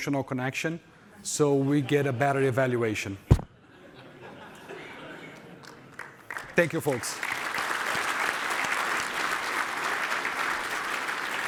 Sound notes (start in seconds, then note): 9.3 audience Applauding